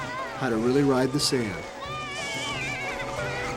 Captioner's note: yelling